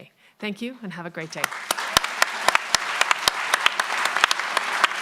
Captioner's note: audience applauding